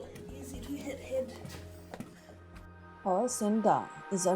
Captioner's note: water rushing